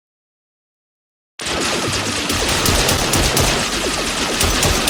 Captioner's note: guns blasting